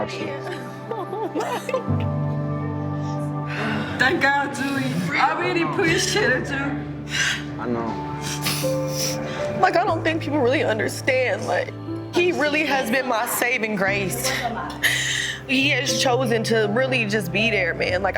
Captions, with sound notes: (crying) - Thank God Dreux, I really appreciate you. - I know. - Like I don't think people really understand. Like he really has been my saving grace. He has chosen to really just be there man.